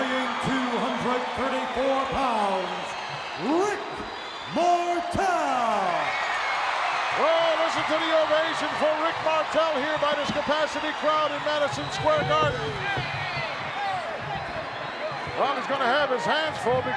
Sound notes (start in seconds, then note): 5.9 audience cheering